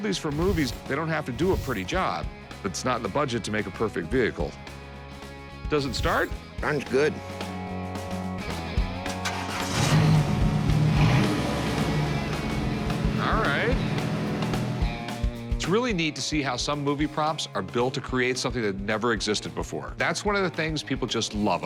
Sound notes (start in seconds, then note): 9.0 engine starting; 10.1 revving